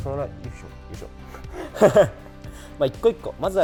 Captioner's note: laughs